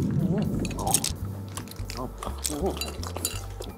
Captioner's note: glass clinking; slurping